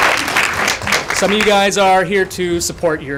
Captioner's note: applause